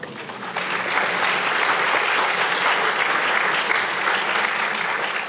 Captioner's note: audience applauding